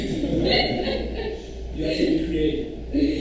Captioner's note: audience chuckles